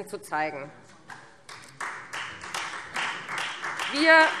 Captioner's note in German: Beifall Freie Demokraten